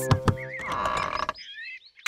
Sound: door creaks

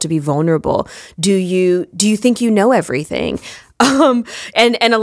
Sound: chuckle

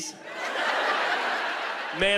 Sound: laughter

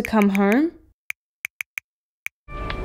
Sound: typing

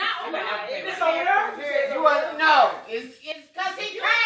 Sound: woman laughing; people talking

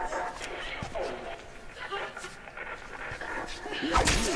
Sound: static; woman crying in fear; violent stabbing noise

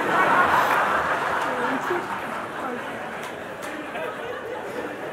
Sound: laughter

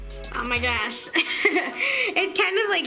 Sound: chuckles

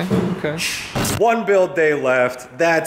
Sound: static

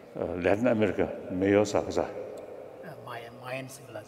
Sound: speaking foreign language

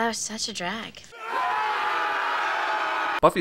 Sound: cheers

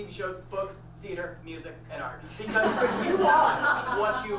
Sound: audience laughs

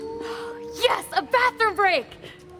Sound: animal howling

